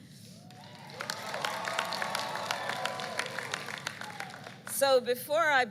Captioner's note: applause